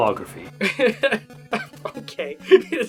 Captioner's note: laughing